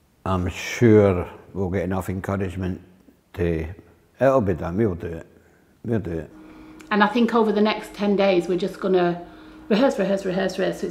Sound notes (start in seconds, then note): none